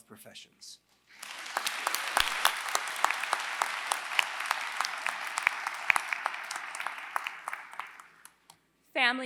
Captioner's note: applause